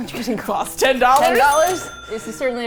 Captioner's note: cha-ching